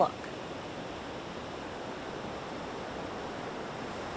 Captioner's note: waves crashing